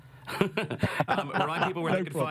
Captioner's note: laughing